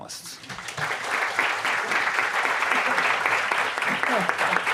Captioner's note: audience applauding